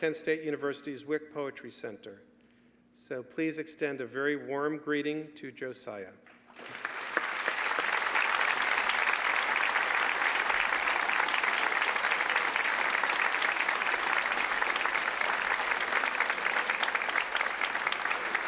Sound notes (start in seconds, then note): 6.3 applause